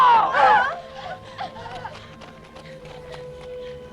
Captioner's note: women whimper